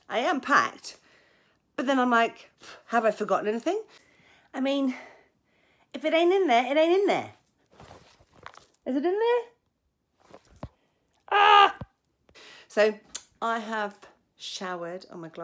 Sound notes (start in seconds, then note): 11.3 yells